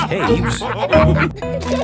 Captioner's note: all laughing